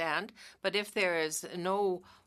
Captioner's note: speaking French